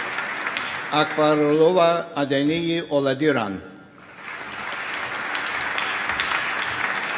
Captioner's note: applause